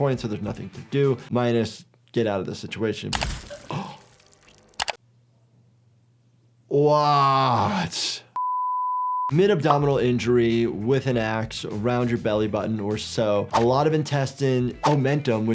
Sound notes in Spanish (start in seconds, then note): 8.4 suena un pitido